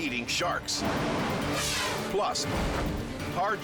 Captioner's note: air whooshes